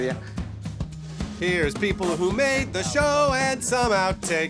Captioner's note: singsong